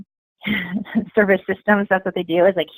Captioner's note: chuckling